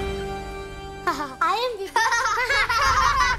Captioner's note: laughing